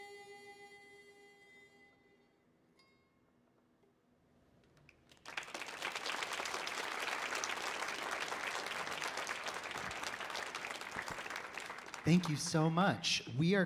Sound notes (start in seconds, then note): 0.1 gentle music continues; 5.0 audience applauding